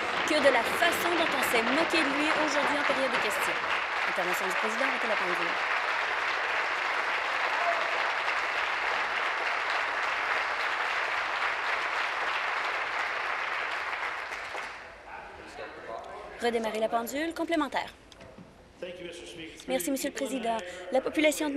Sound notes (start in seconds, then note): 5.5 applause